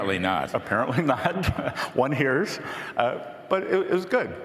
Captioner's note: laughter